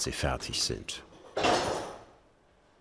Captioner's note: clattering